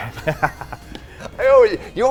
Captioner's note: chuckles